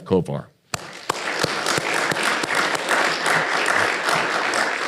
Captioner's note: all applaud